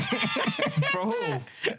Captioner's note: laughing